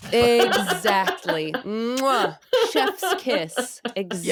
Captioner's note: laughing